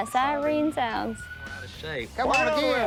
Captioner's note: siren sounding